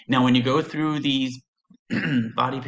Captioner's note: clears throat